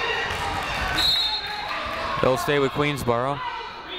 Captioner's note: whistle